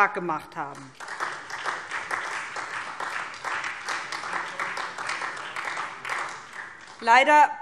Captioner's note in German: Beifall SPD